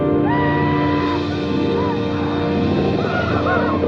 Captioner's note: Apaches howl